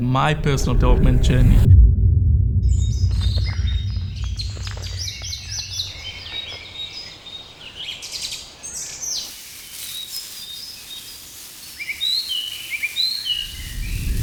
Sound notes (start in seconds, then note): 0.3 air whooshing; 2.7 birds chirping; 9.7 foliage crunching underfoot; 13.4 air whooshing